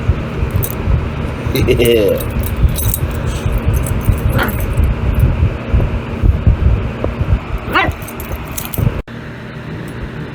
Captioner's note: Ella laughs, then barks